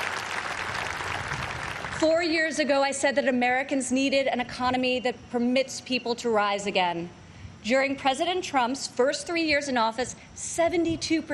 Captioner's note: applause